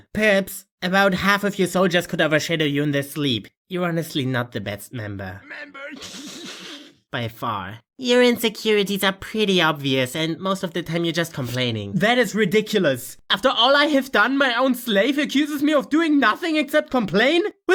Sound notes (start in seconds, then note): 6.0 chuckles